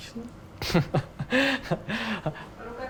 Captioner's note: laughing